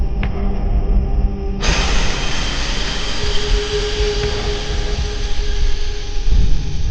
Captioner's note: jump scare; scary music, crickets